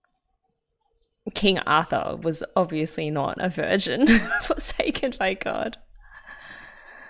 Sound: laughs

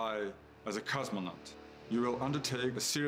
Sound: none

